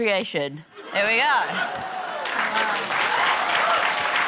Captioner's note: cheering, applause